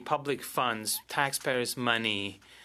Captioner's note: speaking French